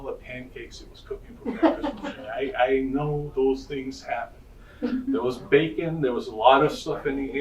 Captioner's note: audience laughing